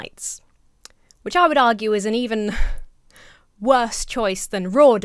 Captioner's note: chuckles